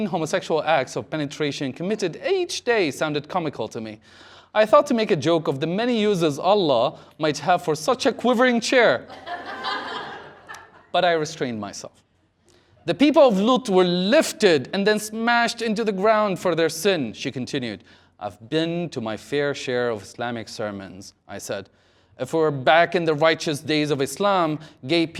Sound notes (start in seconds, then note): 9.0 laughter